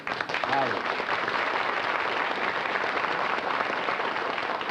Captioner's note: applause